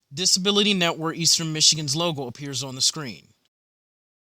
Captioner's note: voiceover